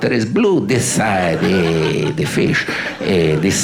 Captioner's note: audience laughing